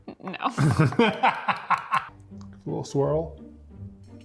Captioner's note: laughing